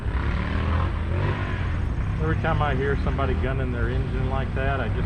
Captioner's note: motorcycle engine revving